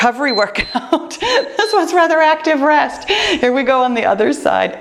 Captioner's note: timer beeps